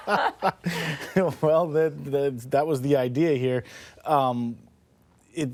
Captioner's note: laughter